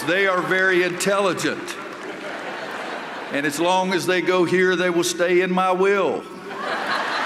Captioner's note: laughter